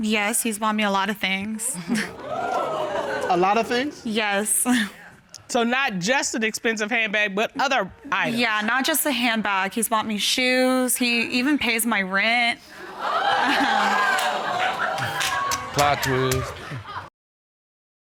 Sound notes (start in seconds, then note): 5.3 chuckles; 13.0 audience exclaims